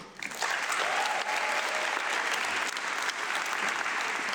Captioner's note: audience clapping